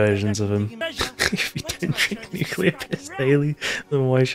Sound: laughter

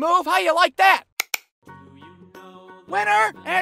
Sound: click-click

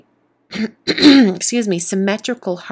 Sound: clears throat

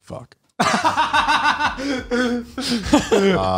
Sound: laughs

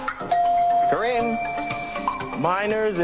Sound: bell rings

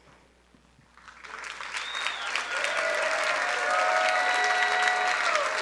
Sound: crowd cheering and applauding

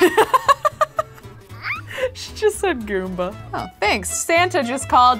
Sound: laughs

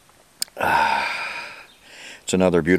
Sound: sighs

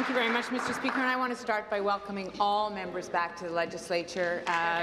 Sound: applause

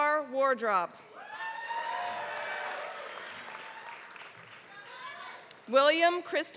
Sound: applause

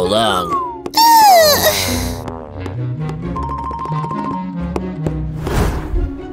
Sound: deep sigh

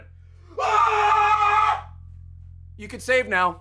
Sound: screams

